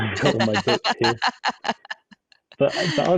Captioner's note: laughs